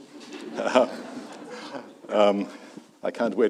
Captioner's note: audience laughs